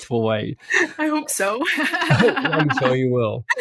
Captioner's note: laughs